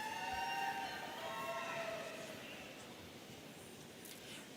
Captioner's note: audience cheering